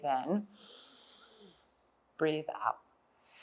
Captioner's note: inhales